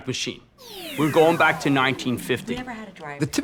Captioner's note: woman chattering